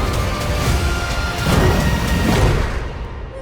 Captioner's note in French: grognement